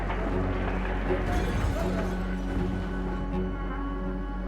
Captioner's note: glass smashes